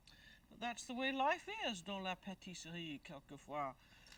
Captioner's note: speaking french